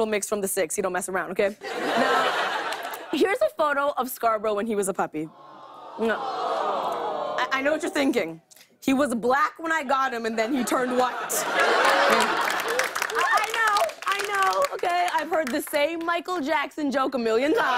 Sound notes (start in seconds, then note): 5.4 audience "aww"s; 10.5 laughter and applause